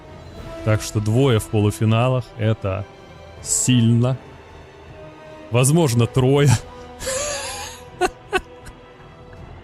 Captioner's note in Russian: смех